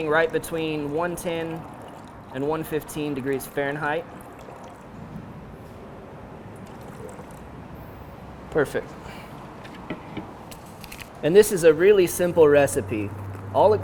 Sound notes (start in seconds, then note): 5.4 vehicle traffic passing